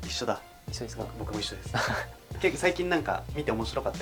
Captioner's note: laughs